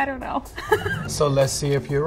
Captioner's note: laughing